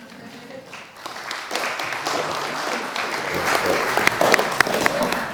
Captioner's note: audience applauds